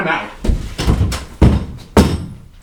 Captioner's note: door flings opens